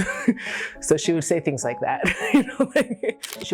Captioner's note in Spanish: risas